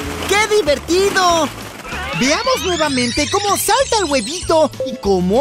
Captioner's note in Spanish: Sonido de rebobinado